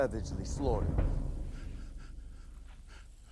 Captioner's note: sobbing